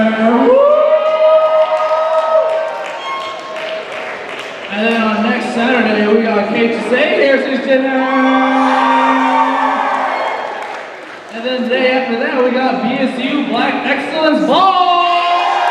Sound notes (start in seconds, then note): 7.8 cheers and applause